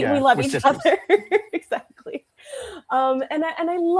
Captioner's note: laughs